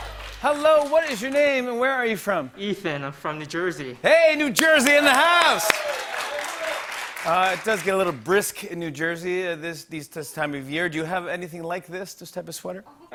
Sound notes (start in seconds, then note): 4.5 cheers and applause; 12.9 laughter